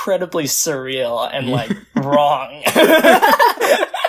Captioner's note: laughs; both laugh